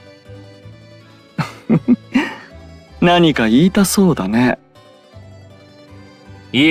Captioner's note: laugh